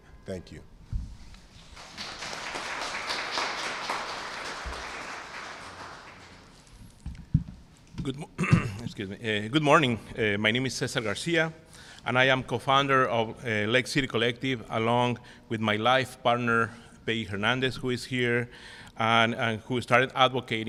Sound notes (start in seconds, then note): 1.5 applause; 8.1 clears throat